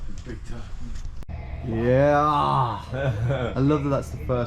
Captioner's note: chuckles